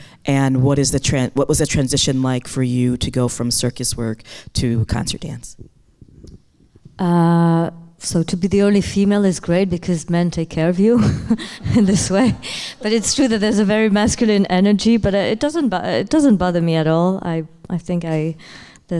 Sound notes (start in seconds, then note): 10.9 chuckling